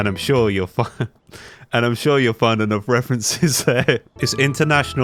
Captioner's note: breaks in to laughing